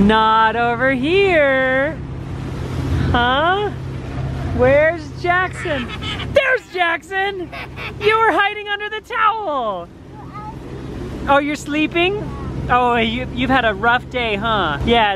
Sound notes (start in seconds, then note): 5.4 laughs